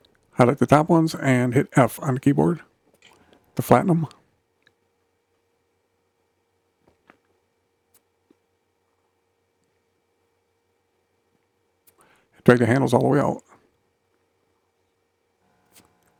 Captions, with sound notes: Highlight the top ones and hit F on the keyboard to flatten them. [silence] Drag the handles all the way out.